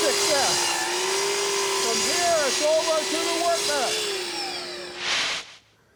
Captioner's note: talking over sawing